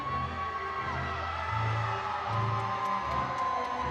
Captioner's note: audience cheering